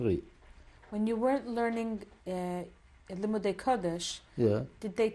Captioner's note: non-english